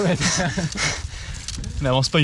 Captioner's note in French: souffle comme un boeuf